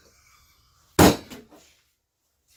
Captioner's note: wack!!